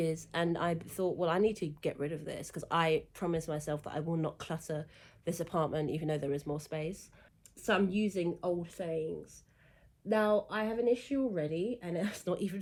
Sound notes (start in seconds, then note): none